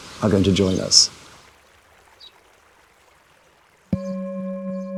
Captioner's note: park ambience fades out